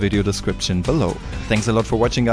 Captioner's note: whoosh